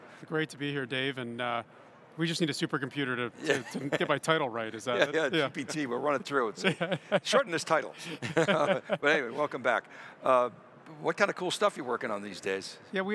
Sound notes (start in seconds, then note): 8.0 laughs